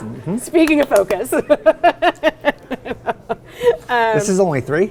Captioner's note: laughing